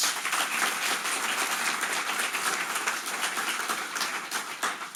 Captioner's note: audience applauding